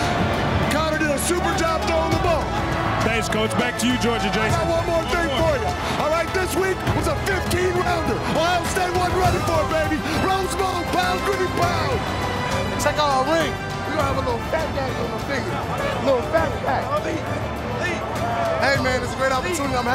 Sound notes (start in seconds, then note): 13.2 players chatting excitedly